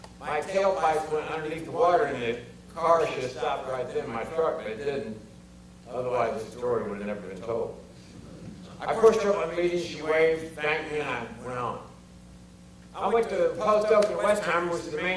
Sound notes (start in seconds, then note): 7.9 audience chuckles